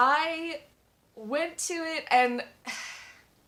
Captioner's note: sigh